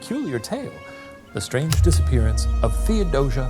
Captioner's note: projector clicking